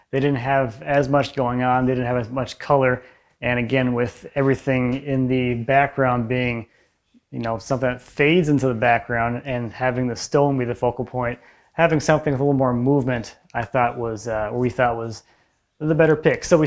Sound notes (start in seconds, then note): none